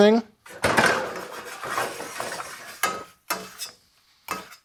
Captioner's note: pan clattering